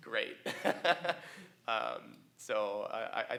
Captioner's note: laughs